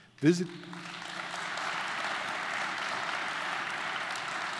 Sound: audience applauding

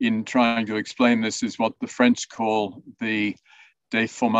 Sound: speaks in French

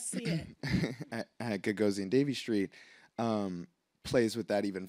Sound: laughs

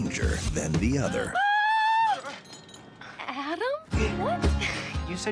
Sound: screams

